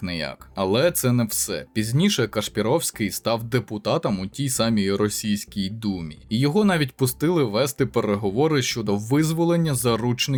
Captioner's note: russian